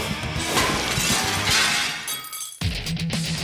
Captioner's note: energetic music; glass shattering; upbeat music